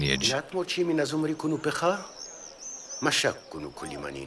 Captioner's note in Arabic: الصوت المنطوق البدوي